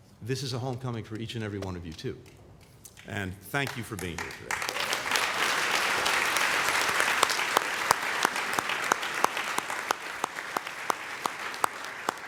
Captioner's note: applause